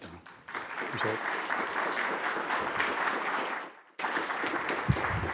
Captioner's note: attendees applauding